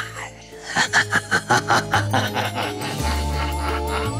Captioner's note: silly laughter